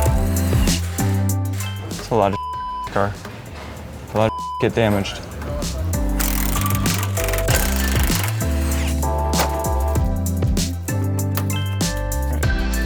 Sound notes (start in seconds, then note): 5.8 tools whirring; 8.7 chill music